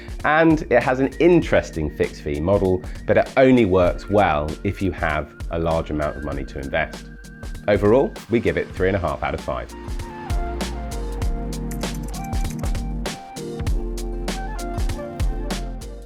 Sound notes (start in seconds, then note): 10.6 gentle music; 11.6 typing on keyboard